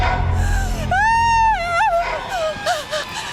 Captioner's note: screams